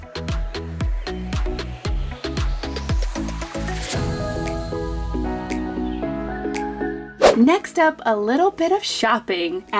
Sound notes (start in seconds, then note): 0.0 upbeat music; 7.2 air whips